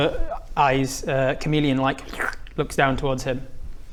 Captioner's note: slurp